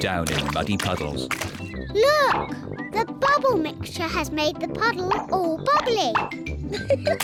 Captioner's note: laughs